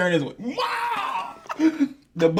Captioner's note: screaming